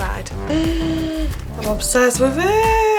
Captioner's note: gasps